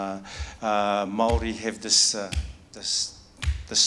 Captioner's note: stomping